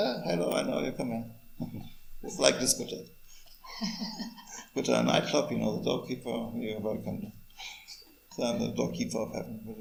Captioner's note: laughs